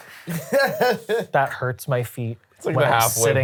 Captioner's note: laughs